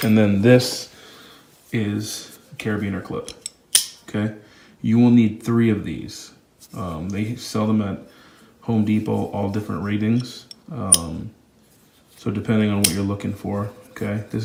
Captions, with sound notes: And then this is a carabiner clip. (carabiner clip clicks) You will need three of these. They sell them at Home Depot, all different ratings, so depending on what you're looking for.